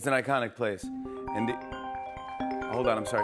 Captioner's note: cellphone ringing